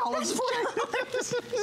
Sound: laughter

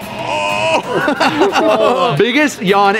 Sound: group laughing

